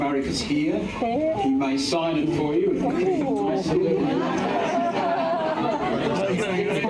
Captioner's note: laughter